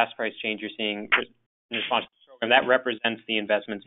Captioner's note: sound distorts